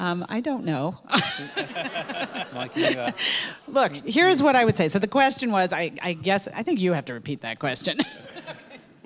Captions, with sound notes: I don't know. (laughs) Look, here's what I would say, so the question was, I guess, I think you have to repeat that question.